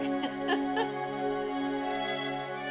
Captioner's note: laughter